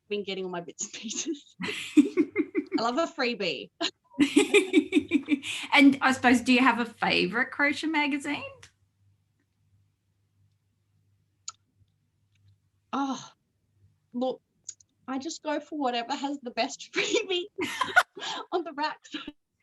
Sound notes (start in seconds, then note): 1.5 both laugh; 4.1 both laugh; 13.0 sighs; 19.3 both laugh